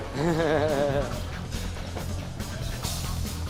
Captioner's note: chuckles